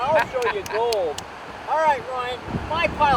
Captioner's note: laughs